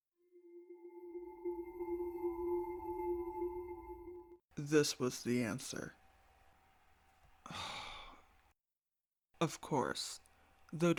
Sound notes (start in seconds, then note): 0.7 magic noise